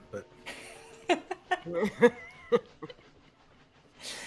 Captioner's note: all chuckling